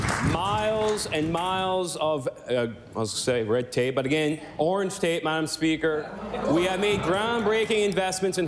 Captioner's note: applause